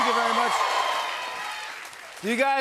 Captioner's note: cheers and applause